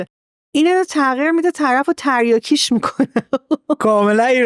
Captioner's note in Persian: خنده